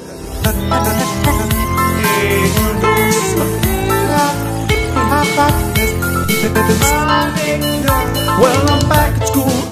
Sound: glitchy noises

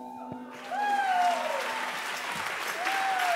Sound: applause

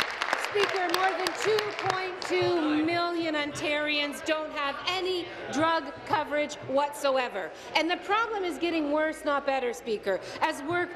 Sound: applause

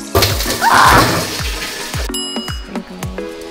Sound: upbeat music playing; pans crashing; bell dings

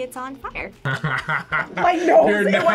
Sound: laughs

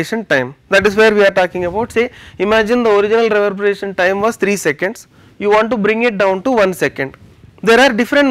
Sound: air conditioning

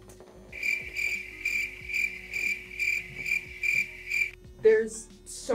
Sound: crickets chirping

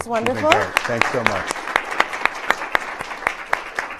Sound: applause

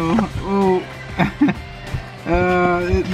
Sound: laughs

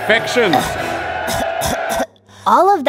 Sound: coughing

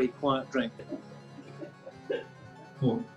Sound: key laughing

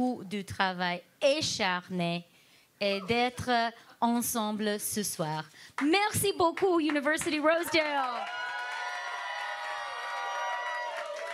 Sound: speaking French

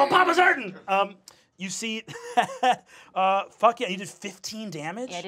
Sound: laughs

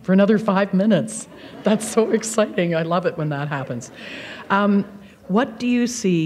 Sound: laughter

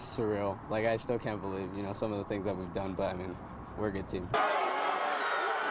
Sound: players yelling

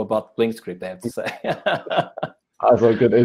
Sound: both chuckle

